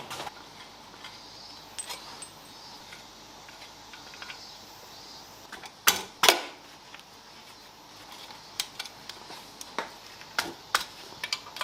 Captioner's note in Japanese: 作業音